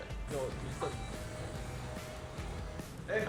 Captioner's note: sound of door opening